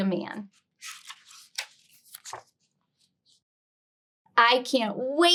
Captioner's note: page rustling